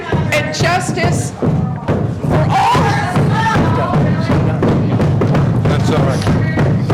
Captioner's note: crowd shouting out